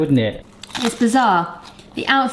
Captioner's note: toastie crunching